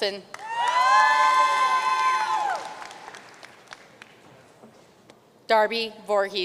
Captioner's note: audience cheering and applauding